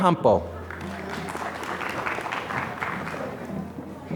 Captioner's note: applause